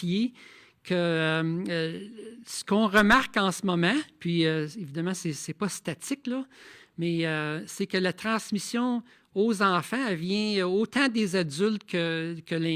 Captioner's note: speaking in French